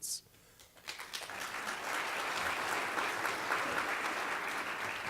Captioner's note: applause